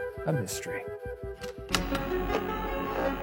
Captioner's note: eerie music; slide projector clicks; ominous music; static buzzes